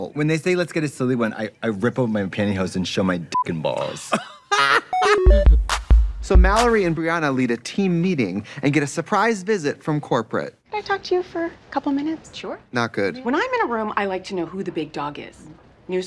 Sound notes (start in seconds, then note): 4.9 beep